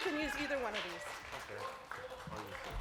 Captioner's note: applause